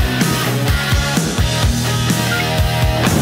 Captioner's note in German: piepen